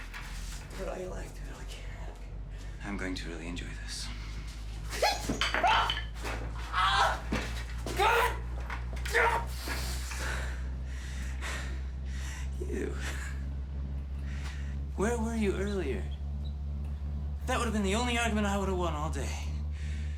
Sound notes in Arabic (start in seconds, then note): 0.1 تمتم بهدوء; 4.6 يصرخ; 6.4 آهات